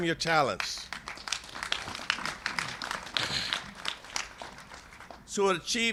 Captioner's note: applause